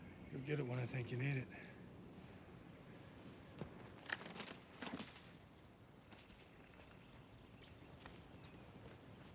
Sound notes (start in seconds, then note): 3.4 footstep